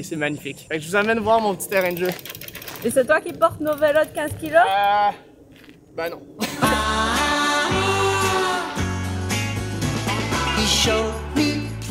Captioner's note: laughing